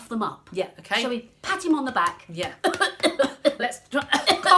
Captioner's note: cough, cough; cough